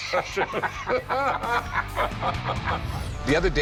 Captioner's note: laughter